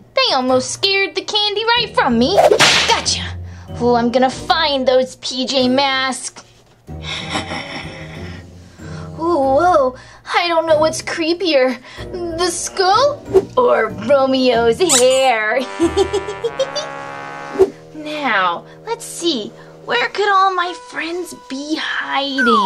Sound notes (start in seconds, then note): 2.3 whip Cracks; 15.6 Gekko Giggling